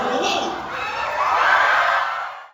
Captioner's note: crowd cheers